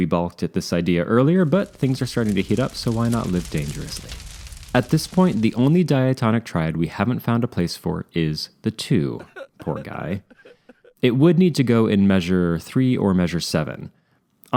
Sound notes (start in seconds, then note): 1.3 fire crackling; 9.1 sobbing